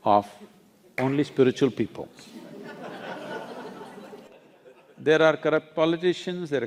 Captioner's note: laughter